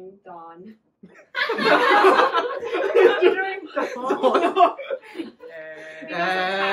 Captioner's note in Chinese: 所有人都笑了